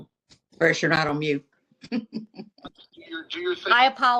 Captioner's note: laughter